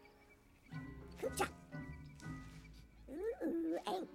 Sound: Speaking Ewokese

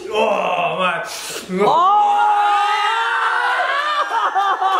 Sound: crowd cheers

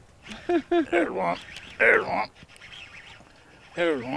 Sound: laughing

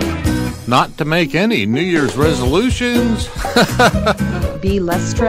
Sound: laughs

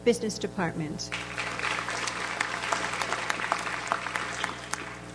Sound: audience applauds

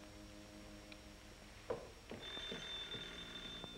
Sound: telephone ringing

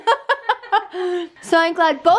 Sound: laughing

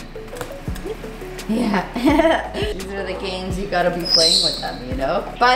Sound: laughs

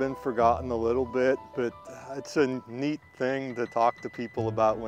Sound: birds chirping

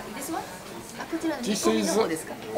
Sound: speaks in foreign language

